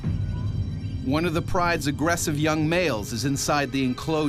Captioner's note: voiceover